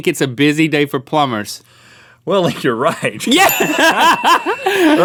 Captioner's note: laughs; ding